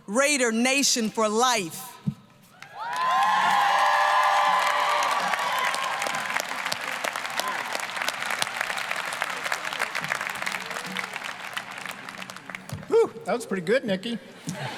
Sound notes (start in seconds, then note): 2.6 applause, cheering; 14.3 all laughing